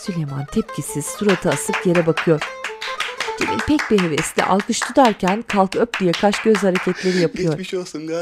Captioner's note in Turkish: Müzik - Hareketli; Alkış sesi